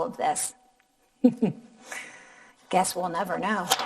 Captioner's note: laughing